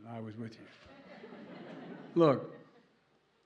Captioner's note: laughter